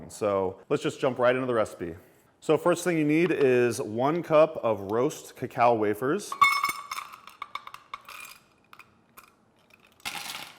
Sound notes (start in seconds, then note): 6.3 wafers clink